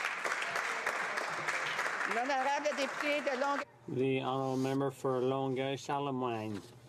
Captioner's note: some Applause